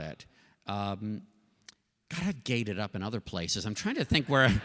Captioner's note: laughter